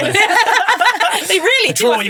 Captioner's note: group laughs